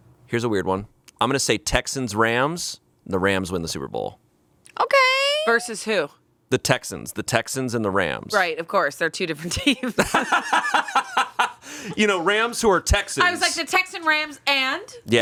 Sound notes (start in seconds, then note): 9.5 laughing